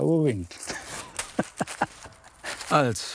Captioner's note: he laughs